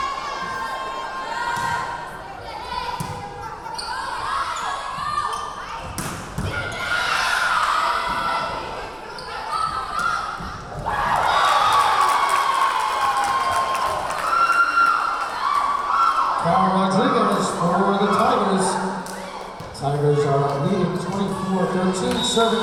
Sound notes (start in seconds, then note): 0.1 yelling; 5.9 yelling; 10.6 cheering; 11.4 clapping; 15.3 cheering